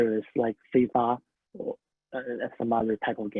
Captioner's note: speaking a foreign language